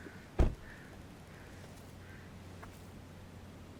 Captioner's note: car door thuds